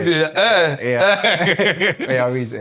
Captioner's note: laughs